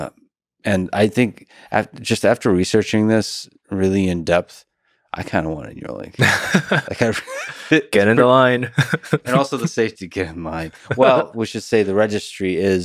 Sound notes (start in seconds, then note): 6.2 laughs